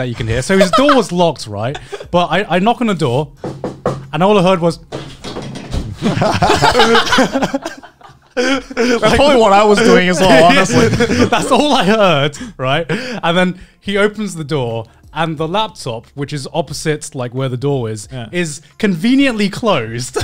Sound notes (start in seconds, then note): 5.9 scrambling noise